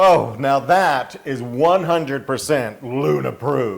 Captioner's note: laugh